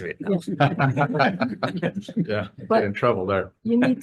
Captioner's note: laughter